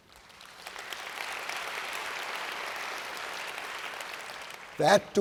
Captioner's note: audience applauds